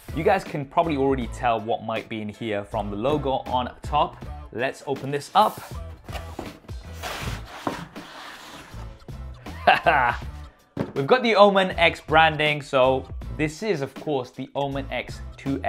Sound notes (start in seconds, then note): 5.9 mellow hip-hop music; 6.0 contents rustling; 9.5 chuckles